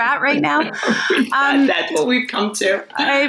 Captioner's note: laughing